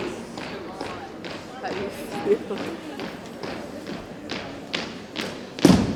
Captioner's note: rhythmic thumping continues